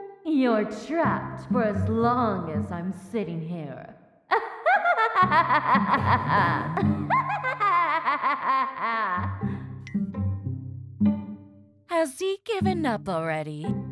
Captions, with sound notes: You're trapped for as long as I'm sitting here *Loud laughter* Has he given up already?